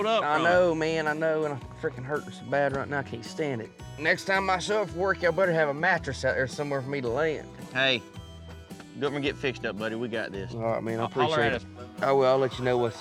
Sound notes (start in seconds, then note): none